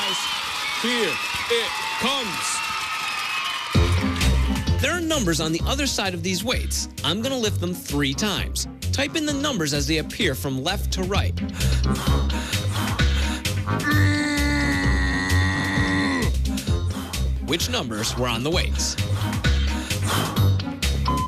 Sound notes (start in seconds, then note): 11.4 breathes heavily; 21.1 electronic beeping